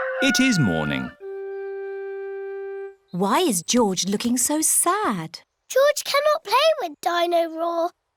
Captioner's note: none